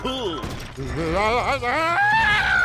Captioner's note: screams